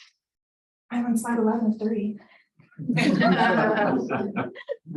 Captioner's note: laughing